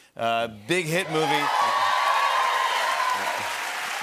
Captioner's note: cheers and applause